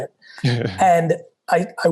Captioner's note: chuckles